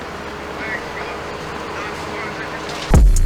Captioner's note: voice On Phone